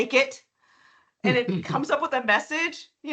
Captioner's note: chuckling